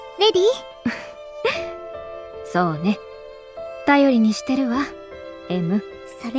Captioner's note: chuckle